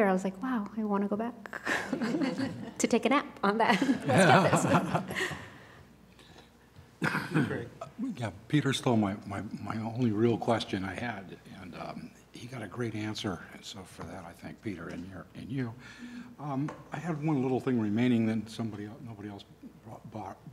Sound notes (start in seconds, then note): 5.3 laughter